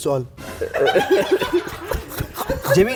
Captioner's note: all Laughing